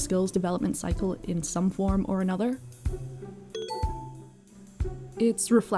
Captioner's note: correct answer buzzer dings